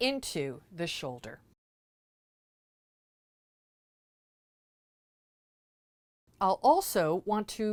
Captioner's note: no Sound Present